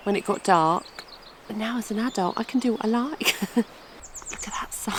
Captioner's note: giggle